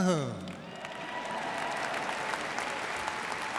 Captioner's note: applause